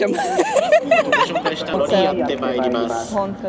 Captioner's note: laughter